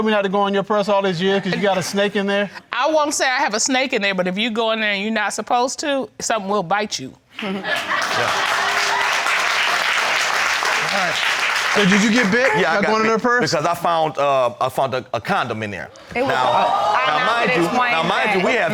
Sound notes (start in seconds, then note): 7.4 audience clapping, cheering; 16.0 crowd gasping